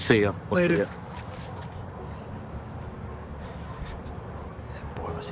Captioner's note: crickets chirping